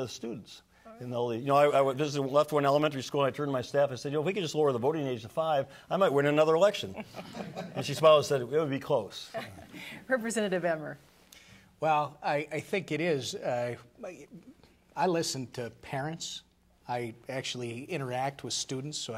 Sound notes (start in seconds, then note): 6.8 laughter